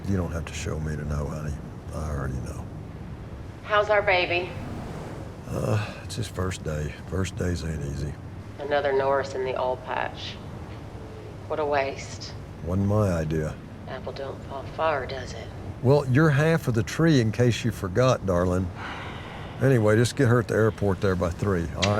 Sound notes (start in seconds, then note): 18.7 Angela sighing